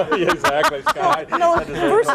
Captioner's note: laughs